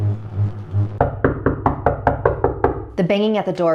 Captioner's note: knocking